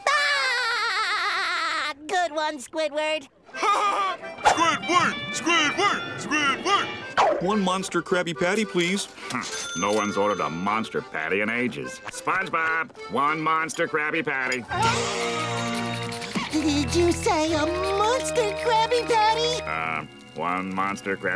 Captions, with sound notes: [laughing] Good one, Squidward. [Patrick laughs] Squidward! Squidward! Squidward! One Monster Krabby Patty, please. Hmph, no one's ordered the Monster Patty in ages. SpongeBob, one Monster Krabby Patty. [gasps] Did you say a Monster Krabby Patty?! Uh, one Monster Krabby Patty.